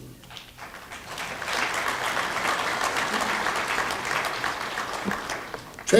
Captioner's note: applause